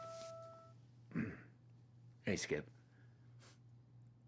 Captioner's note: throat clears